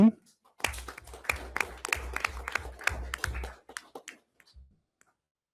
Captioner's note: everyone applauds